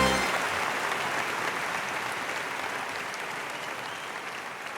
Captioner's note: audience applauding